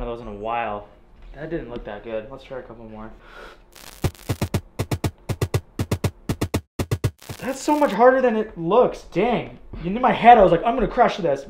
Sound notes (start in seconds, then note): 3.2 inhales deeply; 3.8 upbeat drum music; 3.9 static crackles